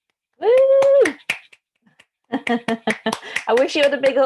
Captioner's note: speakers clap and cheer